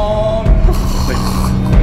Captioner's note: velociraptor noises